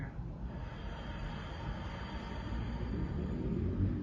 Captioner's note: exhales